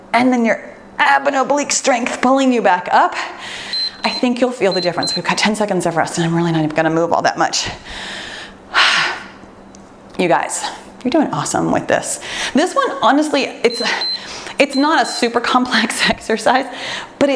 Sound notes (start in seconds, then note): 3.7 timer beeps; 7.8 exhales deeply; 13.6 timer beeps